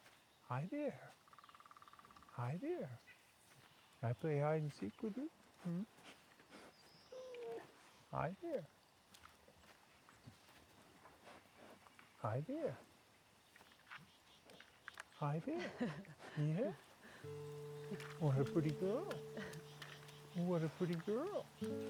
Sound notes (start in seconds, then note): 15.4 chuckles